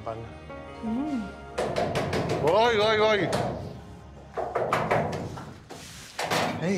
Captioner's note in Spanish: Llaman a la puerta